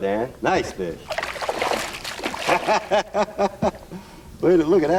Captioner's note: laughter